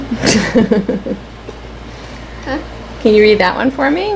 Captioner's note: laughing